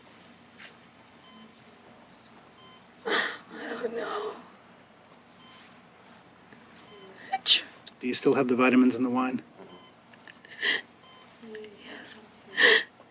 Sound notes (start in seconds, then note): 5.1 machine beeping; 12.5 Nancy gasping